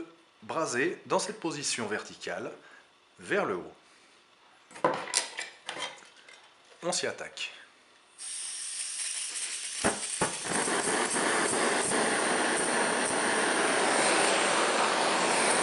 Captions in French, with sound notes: c'est de braser dans cette position: verticale vers le haut on attaque. (bruit gaz, irrégulier la lampe à souder est froide)